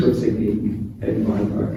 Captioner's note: speaking arabic